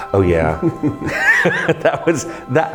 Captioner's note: laughing